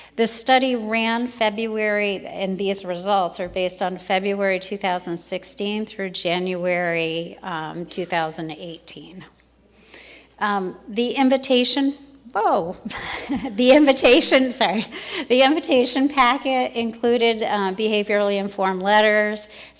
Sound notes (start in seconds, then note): 12.9 laughs; 14.5 crowd laughs